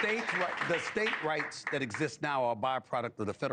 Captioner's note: applause